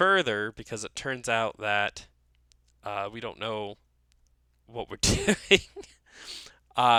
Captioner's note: laughs